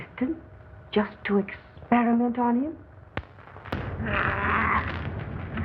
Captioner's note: Buckley snarling and growling